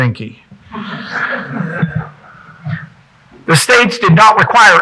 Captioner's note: audience chuckling